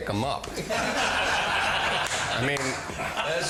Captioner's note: all laughing